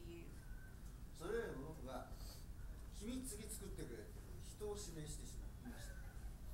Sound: speaking in foreign language

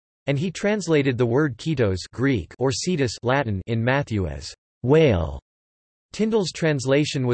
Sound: Latin

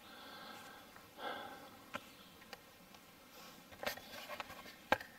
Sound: heavy breathing

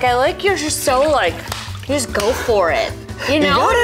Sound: claps; laughs

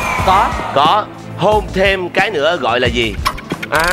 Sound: kiss

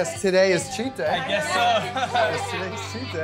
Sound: laughs

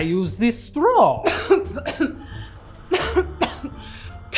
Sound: Persephone coughs

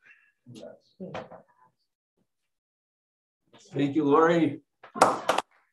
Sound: applause

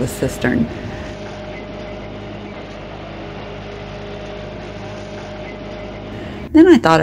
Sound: engine noise

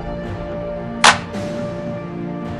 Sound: clap noise

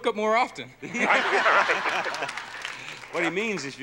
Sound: laughing

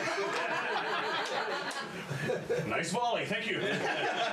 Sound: laughter

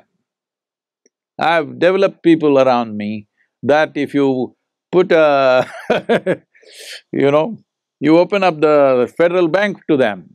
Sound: laughs

